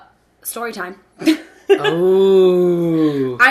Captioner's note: laughing